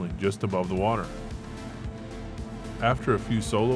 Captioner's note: powerboat revving